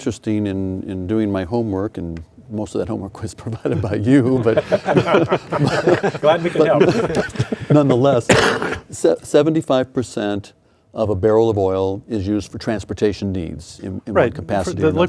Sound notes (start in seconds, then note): 6.1 laughing